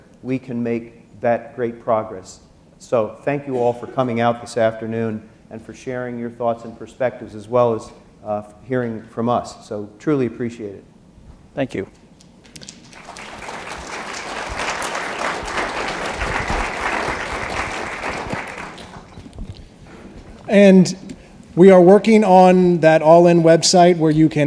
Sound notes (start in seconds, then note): 12.5 applause